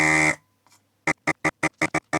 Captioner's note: buzzer Buzzing